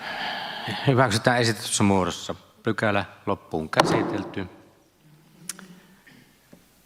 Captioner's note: Nuijan kopautus